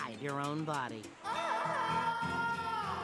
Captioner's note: wailing